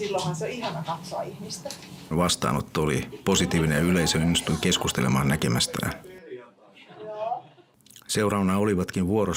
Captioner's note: naurua, huudahduksia